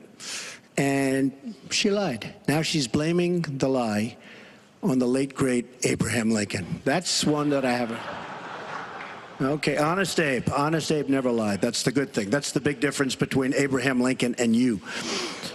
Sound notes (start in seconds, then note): 13.8 laughter